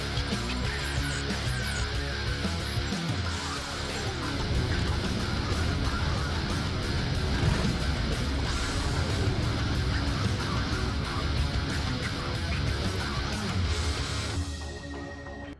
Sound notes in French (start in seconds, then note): 4.7 la musique rock intense continue; 4.7 les moteurs des motos rugissent; 14.3 musique tendue